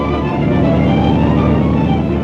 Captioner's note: motor rumbling